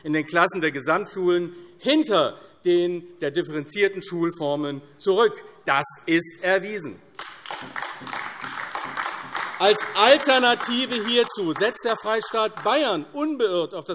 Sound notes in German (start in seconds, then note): 7.1 Beifall : Das sollte uns zu denken geben!